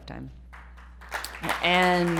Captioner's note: applause